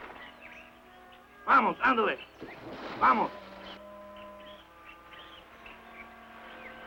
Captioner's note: speaking in foreign language